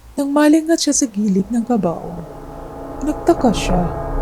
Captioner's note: none